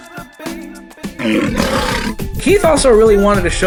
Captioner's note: lion's Roar